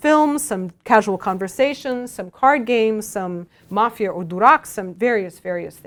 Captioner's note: russian